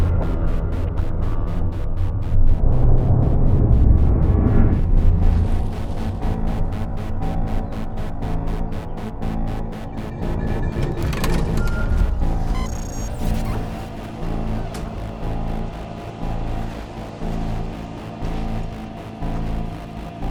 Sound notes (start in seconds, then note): 1.7 ominous music builds; 10.5 door opens; 12.6 digital distortion; 15.5 ominous music builds